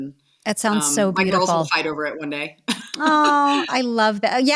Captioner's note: Jill Laughing